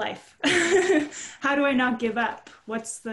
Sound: chuckles

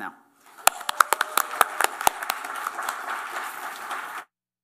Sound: applause

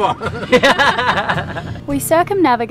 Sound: laughing

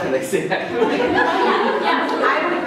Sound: laughter

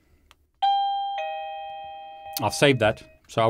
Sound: doorbell rings

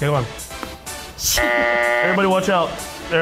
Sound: buzzer buzzes

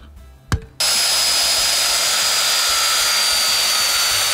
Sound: sawing

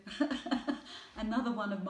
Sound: laughing

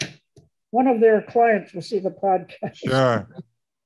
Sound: laughs

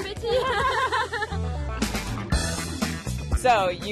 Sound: both laugh

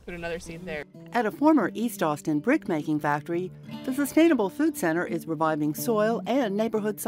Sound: voiceover

